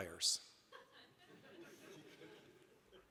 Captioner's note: laughter